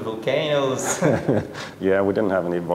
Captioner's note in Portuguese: risos